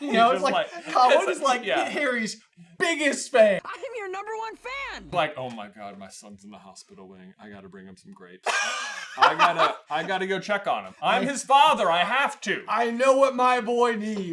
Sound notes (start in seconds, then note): 8.5 cracks up